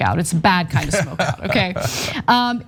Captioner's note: laugh